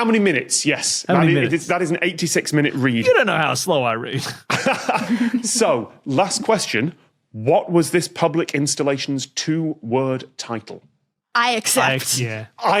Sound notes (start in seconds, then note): 4.2 snickers; 4.2 laughs